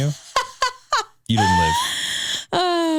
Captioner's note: laughing